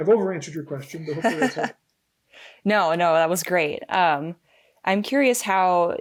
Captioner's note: laughing